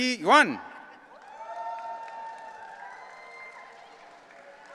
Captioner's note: audience cheering